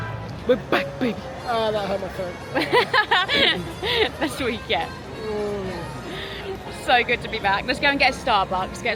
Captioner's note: laughter